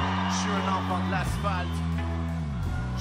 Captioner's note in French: cris de la foule